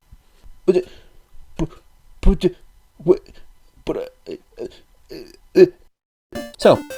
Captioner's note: baffled noises